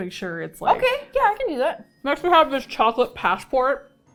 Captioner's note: mouth full